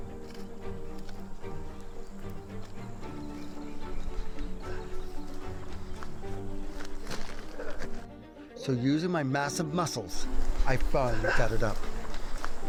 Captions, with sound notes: [bird noise] So using my massive muscles, I finally got it up.